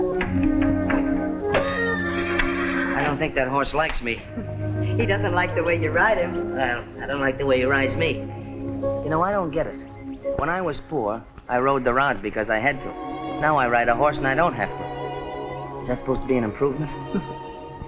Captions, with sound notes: - [ HORSE NEIGHING ] - I don't think that horse likes me. He doesn't like the way you ride him. Well, I don't like the way he rides me. You know, I don't get it. When I was poor, I rode the rods because I had to. Now, I ride a horse and I don't have to. Is that supposed to be an improvement?